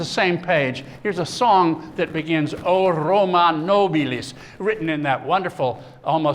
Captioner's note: non-english speech